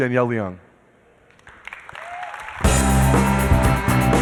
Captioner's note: applause